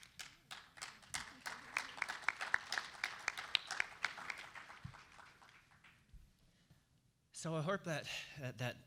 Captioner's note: applause